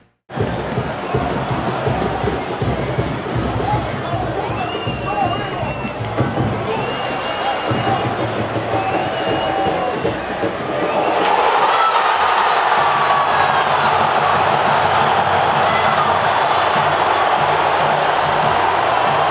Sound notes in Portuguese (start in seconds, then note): 0.9 sons da torcida; 11.0 gritos de gol